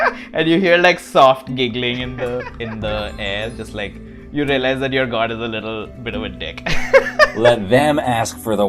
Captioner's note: laughter; laughs